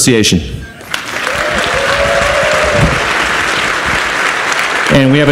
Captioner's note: audience applauds